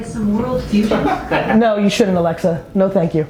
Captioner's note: laughing